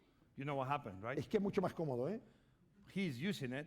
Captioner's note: speaking spanish